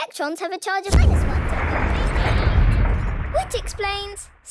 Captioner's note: distant explosion